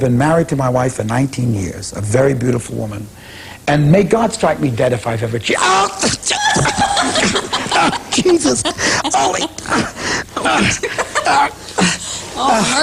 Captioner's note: laughter